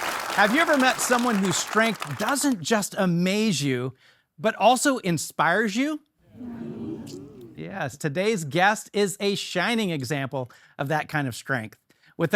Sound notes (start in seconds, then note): 6.3 audience affirming